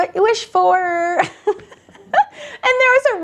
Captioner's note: laughing